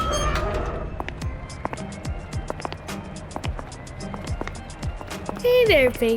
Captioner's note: heavy door opens; footsteps